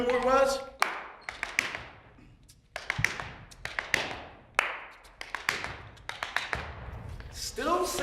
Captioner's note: tapping